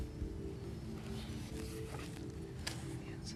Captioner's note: whispering